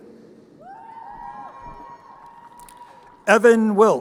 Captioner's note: crowd cheering